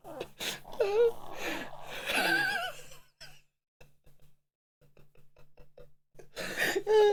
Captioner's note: laughing